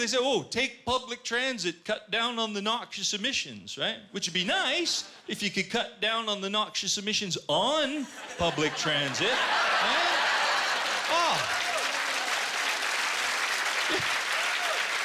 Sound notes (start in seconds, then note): 9.8 laughter; 11.3 applause